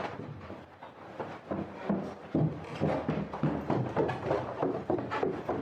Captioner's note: footsteps